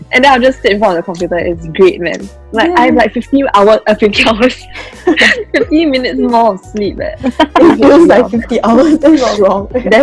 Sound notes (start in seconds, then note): 5.0 laughs; 7.2 laughter